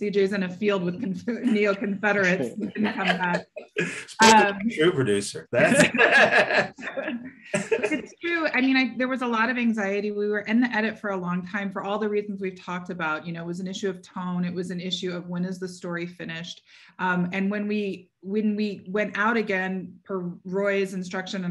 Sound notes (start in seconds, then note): 6.7 laughs